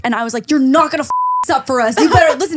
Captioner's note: beep